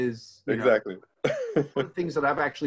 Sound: laughing

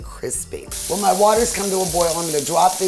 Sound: pancetta sizzling

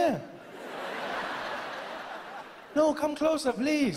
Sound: laughing continues

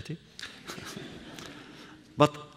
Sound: laughter

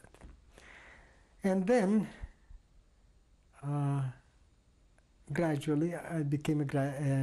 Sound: pauses for 3 seconds

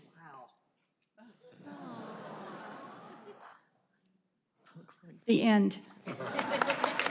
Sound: laughter

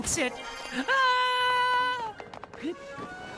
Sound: unconvincing Screaming

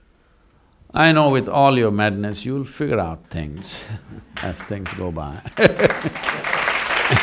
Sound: laughs; applause

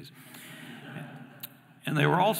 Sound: audience laughing

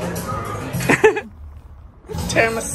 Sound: laughs

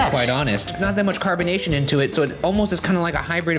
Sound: none

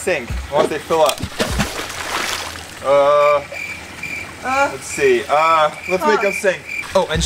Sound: water splashing; crickets chirping

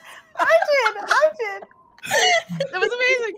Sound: all laughing

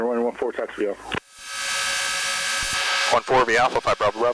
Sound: plane engine buzzes

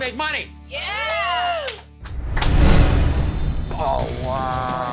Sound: group applauds

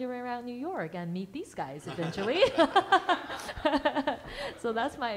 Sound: laughs

